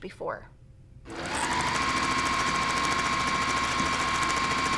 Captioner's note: sewing